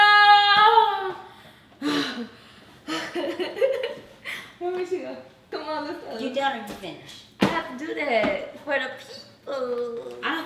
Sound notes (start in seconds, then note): 2.0 breathless panting; 2.8 giggling